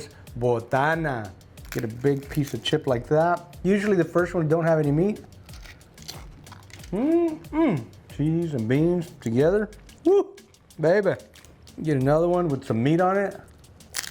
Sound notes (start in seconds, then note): 5.4 chip crunching; 6.9 hums